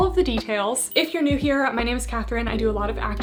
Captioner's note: bell chiming